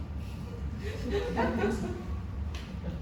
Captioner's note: audience laughs